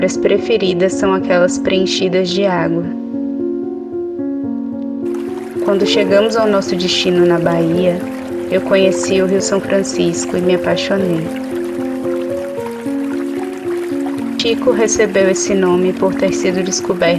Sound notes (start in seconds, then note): 10.3 sound of water